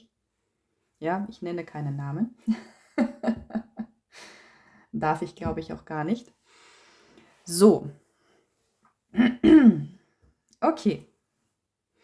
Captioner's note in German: gelächter